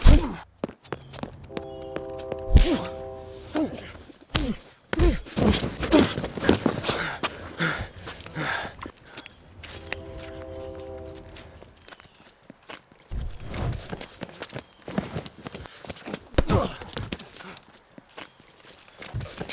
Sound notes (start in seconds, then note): 0.2 fist whacking; 1.4 train horn blaring; 4.4 head slamming; 6.4 Jack panting; 9.5 train horn blaring; 14.8 Jack grunting; 16.6 fist whacking; 17.0 chain jangling